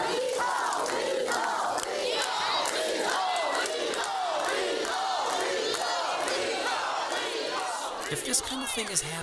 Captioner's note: crowd booing; citizens chanting